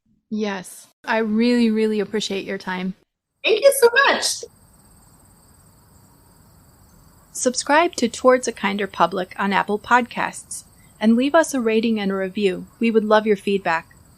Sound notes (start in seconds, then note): 4.4 sounds of summer meadow, insects, and geese fade into background